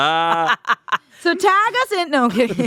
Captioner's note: laughing